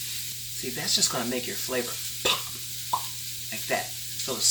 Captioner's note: pops